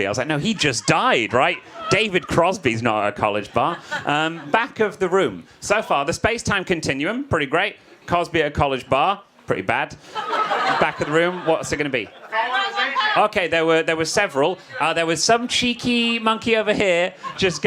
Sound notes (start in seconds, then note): 12.3 audience shouts